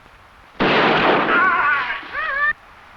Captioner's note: gunshot blasting; animal calling; warrior groaning